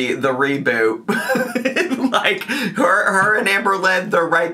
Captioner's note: laughs